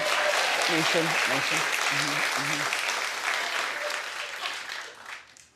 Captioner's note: audience clapping